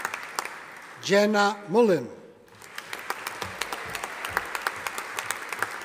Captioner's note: audience applauding